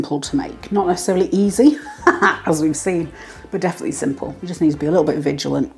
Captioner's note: laugh